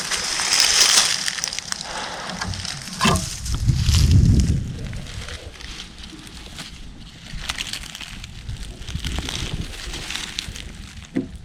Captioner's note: crunching noises